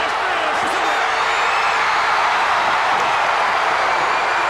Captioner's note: crowd roars